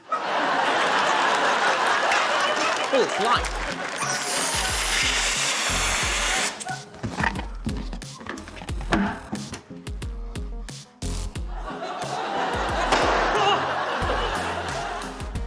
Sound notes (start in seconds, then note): 0.0 laughter, applause; 4.0 helium hisses; 11.5 laughter; 12.9 pop!; 13.2 exclaims